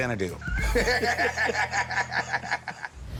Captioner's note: laughter